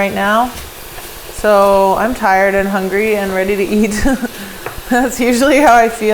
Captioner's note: laughs